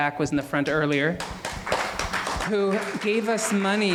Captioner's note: applauding